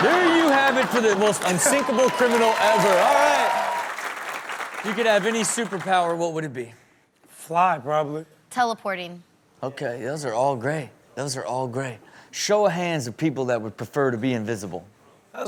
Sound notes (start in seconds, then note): 3.7 crowd applauding